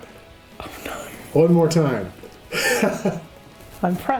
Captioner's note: chuckles; laughing